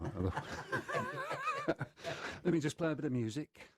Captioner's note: laughter